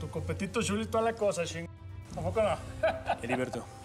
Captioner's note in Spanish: risas